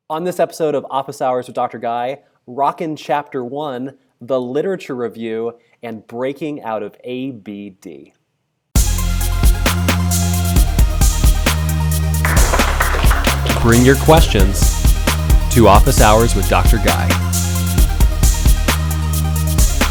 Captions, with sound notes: - On this episode of Office Hours with Dr. Guy, rocking chapter one, the literature review and breaking out of ABD. (upbeat music) (clapping) Bring your questions to Office Hours with Dr. Guy.